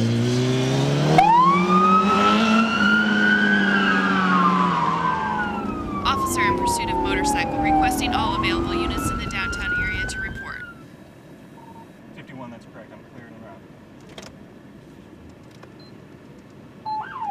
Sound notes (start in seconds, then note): 1.4 siren wailing